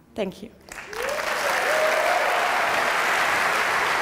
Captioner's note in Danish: applause